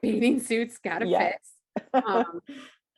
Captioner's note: laughs